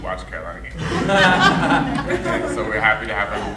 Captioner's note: audience laughing